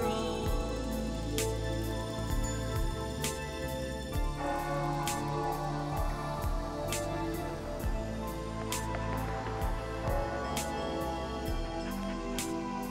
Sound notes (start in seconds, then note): 3.9 bell ringing; 3.9 soft music